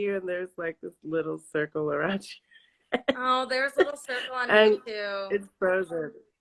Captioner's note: laughs